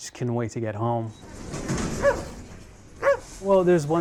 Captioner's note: dog barking